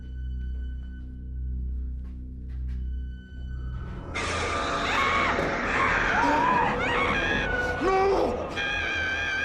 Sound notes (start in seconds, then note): 4.2 screaming; 4.5 frightening music